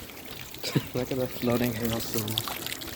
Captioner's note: laughs